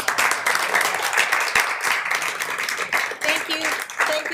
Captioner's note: applaud